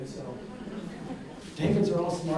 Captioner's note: audience laughs